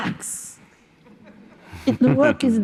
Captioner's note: laughter